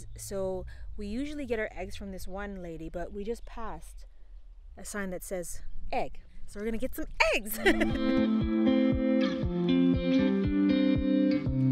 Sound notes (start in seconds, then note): 7.4 laughs; 7.5 upbeat music